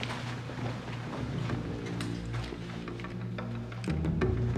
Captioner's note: none